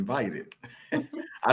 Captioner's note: laughter